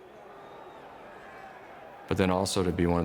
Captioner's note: crowd cheering